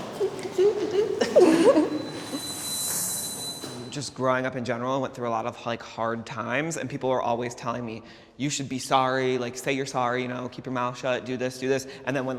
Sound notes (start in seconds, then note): 0.0 all laughing; 1.9 high pitched squeal